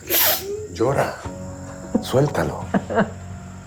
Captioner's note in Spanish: Sollozos